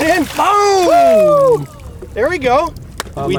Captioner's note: excited yelling